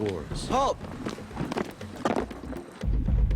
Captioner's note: stomping; steady tribal music